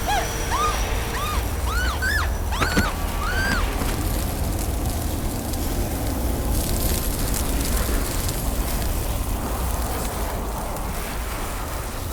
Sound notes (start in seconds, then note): 0.2 vampire groans loudly; 4.6 flames crackling